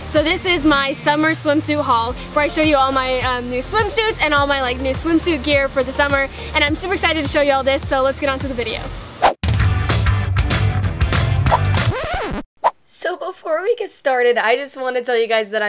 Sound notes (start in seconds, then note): 9.3 upbeat music; 11.5 record scratching